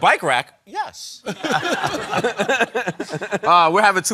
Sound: laughter

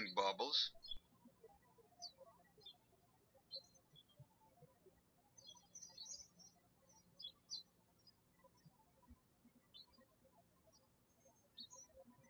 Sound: birds chirping

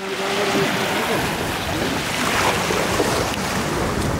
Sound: waves whooshing

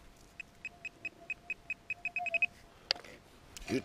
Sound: metal detector sounds

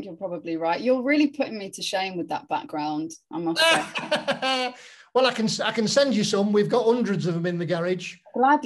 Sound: laughs

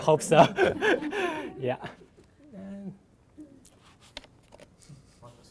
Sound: laughter and murmuring

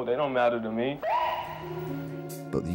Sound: police siren chirping

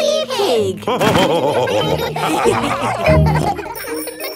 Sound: all laughing

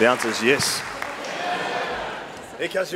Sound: audience yelling

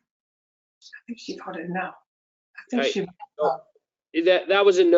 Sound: woman's Voice

